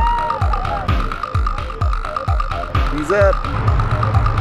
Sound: kids exclaiming

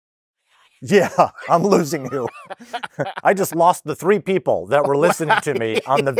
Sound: yawns

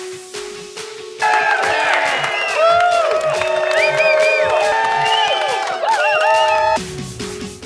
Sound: cheering & Clapping

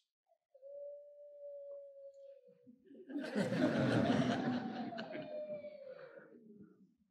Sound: child cries; crowd laughs

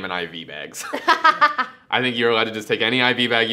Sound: laughs

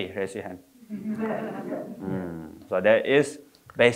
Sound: audience laughing

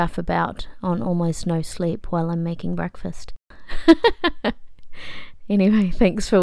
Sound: laughs

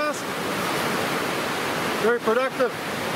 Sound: waves crashing

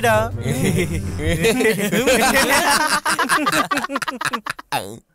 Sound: laughs

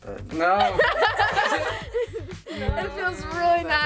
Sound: all laugh

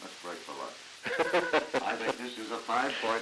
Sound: chuckles

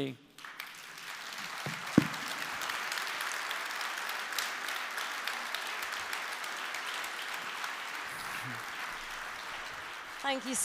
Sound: applause

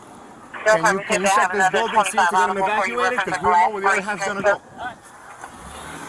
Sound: radio dispatching in background

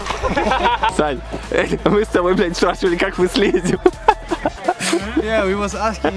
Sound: all laughing; speaking in foreign language

